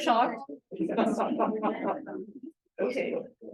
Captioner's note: laughter